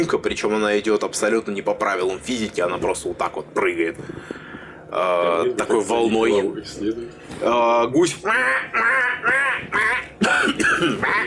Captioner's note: goose noises